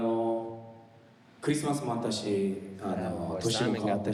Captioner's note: speaking in foreign language